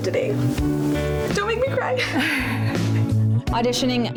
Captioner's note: laughs